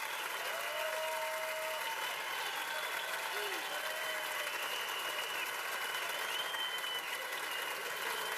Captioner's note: cheers and applause continues